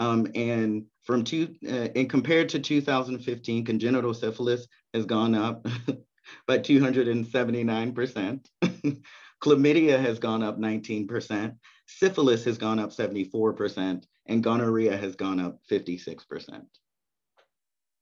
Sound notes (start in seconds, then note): 5.6 chuckles; 8.6 chuckles